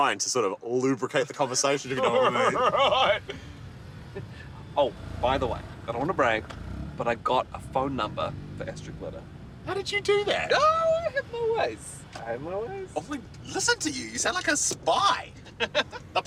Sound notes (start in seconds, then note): 3.7 cackling